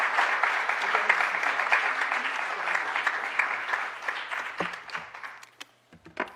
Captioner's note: applause